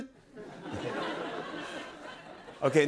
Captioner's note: laughter